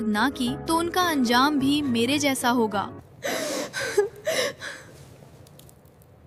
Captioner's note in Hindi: अचानक ज़ोर से सांस लेने की आवाज़; हंसी